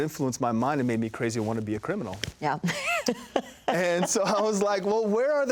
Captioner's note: laughs